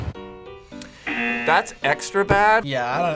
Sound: buzzer rings

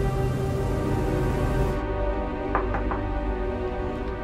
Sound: door knock; door opens

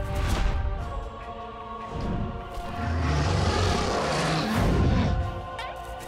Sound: roars

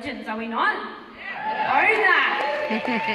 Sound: cheering

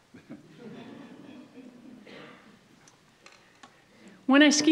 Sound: audience laughs

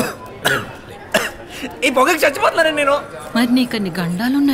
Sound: Sundar coughing

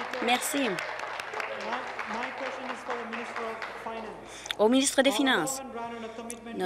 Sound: applause

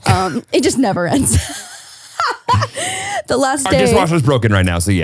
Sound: laughs

